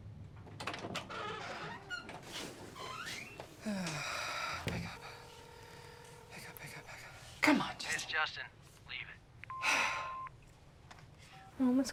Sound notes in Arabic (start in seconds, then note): 0.5 صرير الباب مفتوحًا، مغلقًا; 5.0 رنين الهاتف; 9.5 صوت البريد الصوتي، إيلي تتنهد